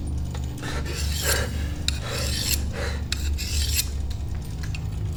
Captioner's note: blade scraping